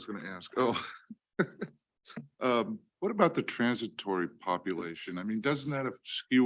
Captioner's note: chuckles